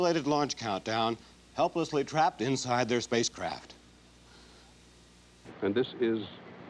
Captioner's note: voice breaking